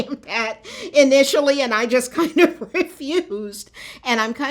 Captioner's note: laughter